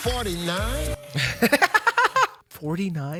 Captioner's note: laughs